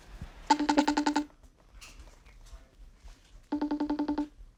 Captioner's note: device ringing